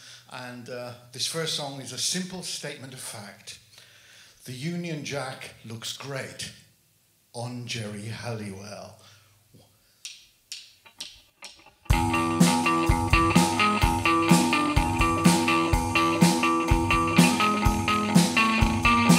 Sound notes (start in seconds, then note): 10.0 drumsticks clacking; 11.4 guitar & drums playing